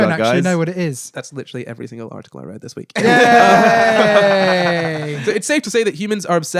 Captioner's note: laughing